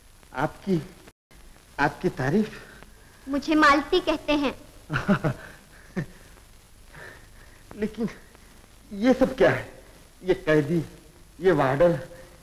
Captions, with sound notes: Who are you? - Malati. [Chuckling] What is all this? These prisoners, the warden?